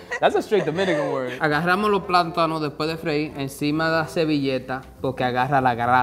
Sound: speaking in foreign language

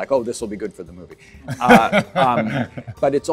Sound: Adam laughing

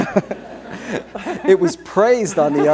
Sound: laughter

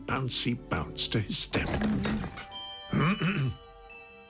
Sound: narrator clearing throat

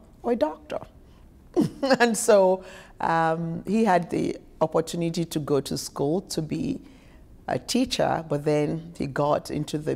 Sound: chuckles

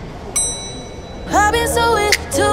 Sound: door chimes

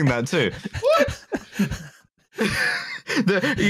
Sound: laughter

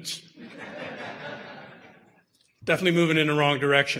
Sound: audience laughter

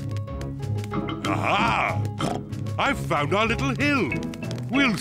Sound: oinks

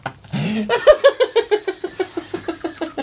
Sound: sporty Football Laughter

